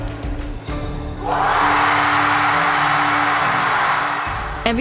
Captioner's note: cheering